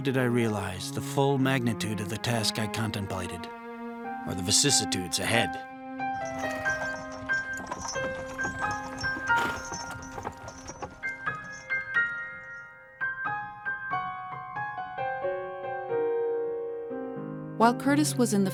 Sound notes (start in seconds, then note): 4.3 calming music; 4.3 chains rattling; 12.0 calming music continues